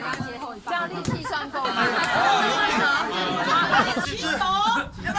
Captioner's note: laughter